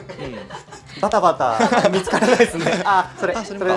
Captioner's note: laughs